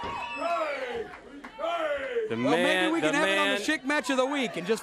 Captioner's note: crowd chatter